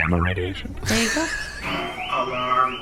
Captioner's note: a klaxon starts blaring